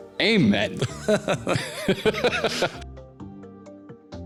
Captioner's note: both laughing